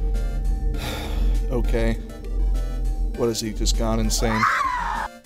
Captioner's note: sigh